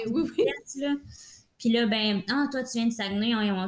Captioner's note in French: rires